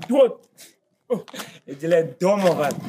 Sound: laughs

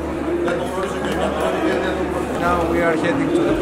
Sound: chatting

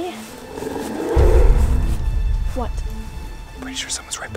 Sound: animalistic growling

